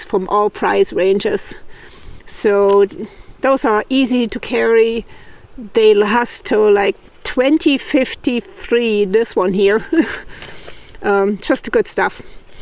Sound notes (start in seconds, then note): 9.7 laughs